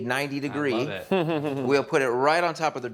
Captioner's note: chuckles